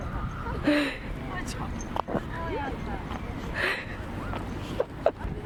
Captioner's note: laugh